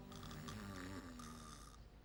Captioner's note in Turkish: Horlama sesi